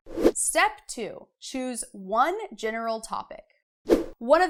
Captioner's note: air whooshing; air whooshing